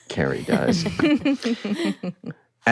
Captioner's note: all chuckle